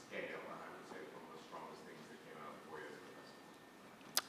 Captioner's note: faintly speaking